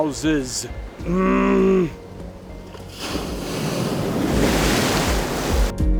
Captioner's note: grunts, waves crashing